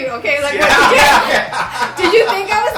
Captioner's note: laughing